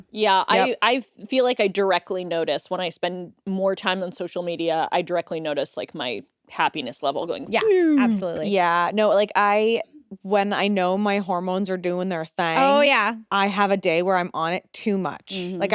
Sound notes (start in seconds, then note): none